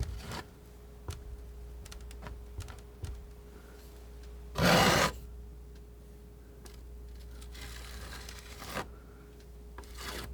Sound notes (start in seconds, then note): 4.6 scratching